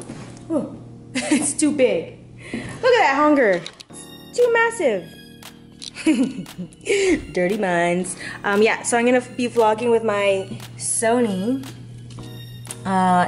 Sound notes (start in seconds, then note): 5.9 chuckles